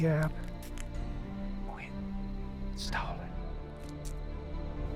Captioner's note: whispers menacingly